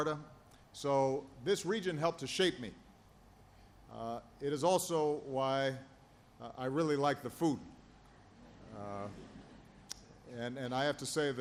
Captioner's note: laughter